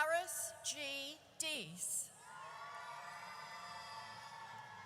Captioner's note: audience cheers